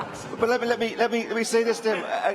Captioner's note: laughter